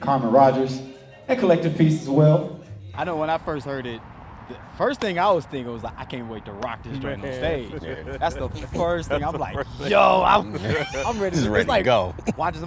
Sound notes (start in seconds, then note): 3.4 sax; 6.8 group laughs